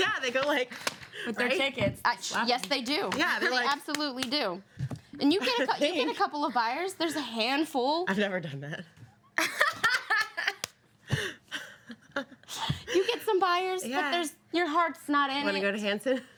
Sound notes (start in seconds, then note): 9.4 women laugh